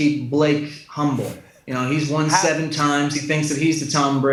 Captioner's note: chuckles